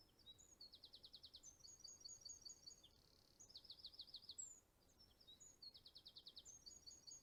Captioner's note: bird singing